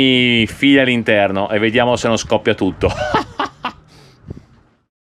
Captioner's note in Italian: risate